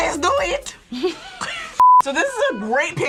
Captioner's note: women snickering